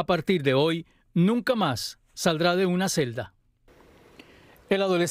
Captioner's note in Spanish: habla en ingés